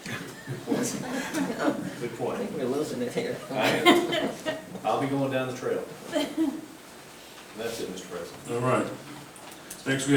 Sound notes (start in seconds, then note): 3.6 group laughing